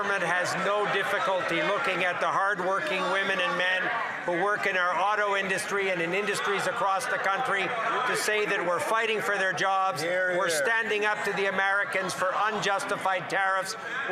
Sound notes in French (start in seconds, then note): 0.0 voix de l'interprète; 3.8 voix de l'interprète